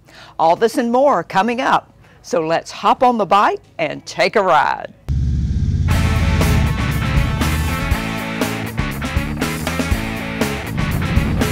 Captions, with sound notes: All this and more coming up. So let's hop on the bike and take a ride. (upbeat music) (motorcycle engines droning)